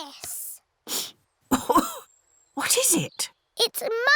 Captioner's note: sniffs and coughs